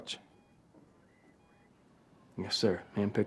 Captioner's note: heart monitor beeping